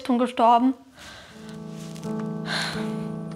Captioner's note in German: Seufzen; Traurige Musik